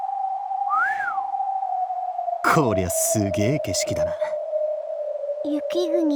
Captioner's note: whistle